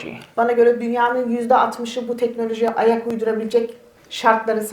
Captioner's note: speaks in Turkish